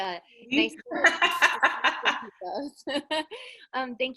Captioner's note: laughs